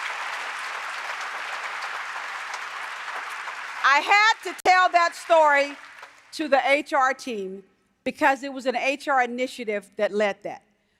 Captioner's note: applause